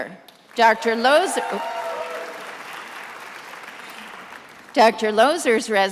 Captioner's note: attendees applauding